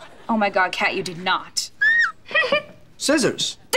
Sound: giggling

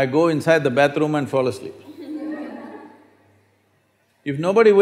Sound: few Laugh

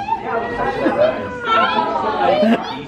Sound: giggling

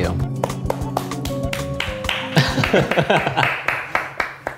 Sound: clapping hands

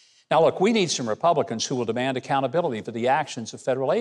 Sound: none

